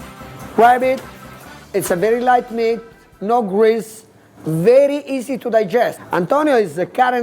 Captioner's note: chef speaking